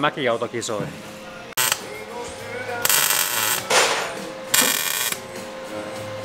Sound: sounds of a saw

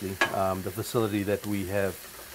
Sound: food sizzles

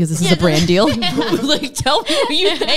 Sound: group laughing

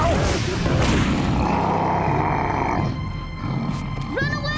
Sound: roaring

